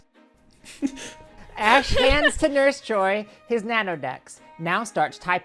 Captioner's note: laughing